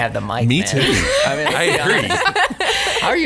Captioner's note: laughs